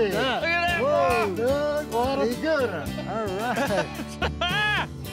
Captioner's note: laughter, cheering